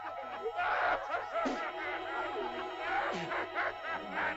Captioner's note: laughter; child spits; laughter